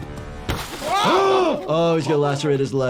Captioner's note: car window smashing